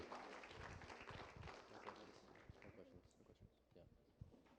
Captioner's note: applause